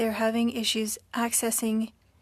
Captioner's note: speaking French